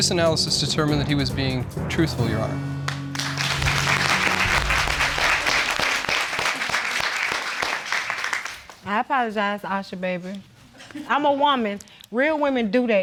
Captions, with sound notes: The voice analysis determined that he was being truthful, Your Honor. (AUDIENCE APPLAUDING) I apologize, Oshja baby. I'm a woman.